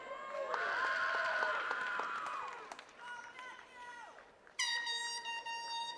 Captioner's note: attendees cheering and clapping